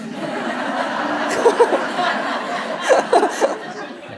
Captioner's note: audience laughing; chuckling